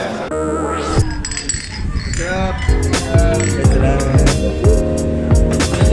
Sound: Red Horse bottles clank

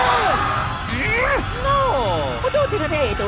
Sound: angry groaning

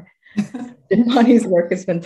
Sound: laughs

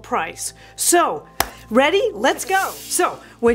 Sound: claps

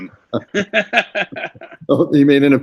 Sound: laughs

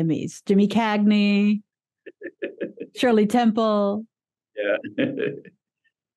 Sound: laughs

